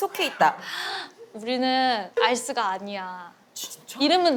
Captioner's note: gasps